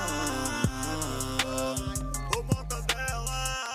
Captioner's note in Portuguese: bradando